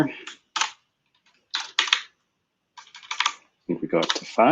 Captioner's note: typing